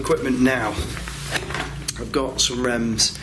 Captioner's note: shuffling